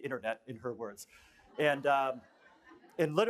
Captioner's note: laughter